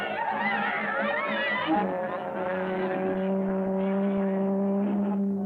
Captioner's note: indistinct chattering; foghorn blaring